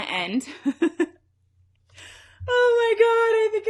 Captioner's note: giggles